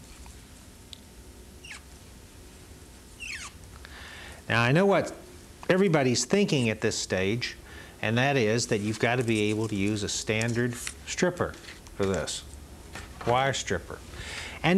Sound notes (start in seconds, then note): 1.6 fibers squeaking